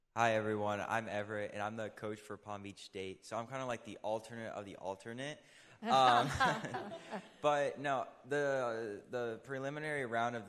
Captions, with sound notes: Hi, everyone, I'm Everett and I'm the coach for Palm Beach State. So I'm kind of like the alternate of the alternate. (all laughing) But no, the preliminary round